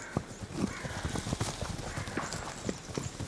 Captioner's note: ewe bleats